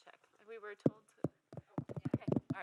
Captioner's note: mic tapping